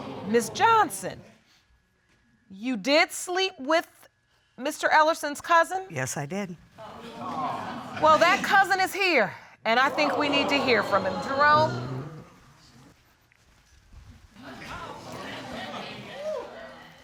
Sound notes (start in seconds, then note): 9.8 audience gasps; 14.4 audience chatter indistinctly